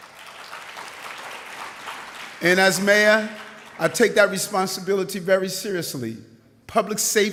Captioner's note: applause